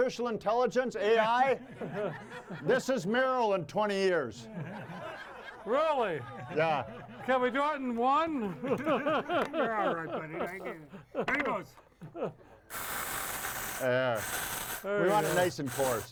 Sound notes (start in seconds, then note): 8.4 laughs